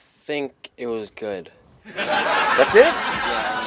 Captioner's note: audience laughing